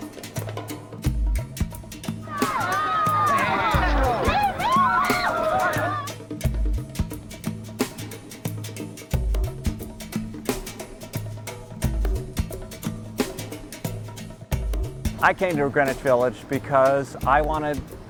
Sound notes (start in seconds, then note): 2.2 people shouting